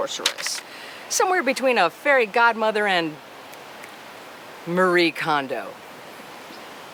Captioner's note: snaps